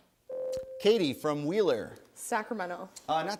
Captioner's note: ding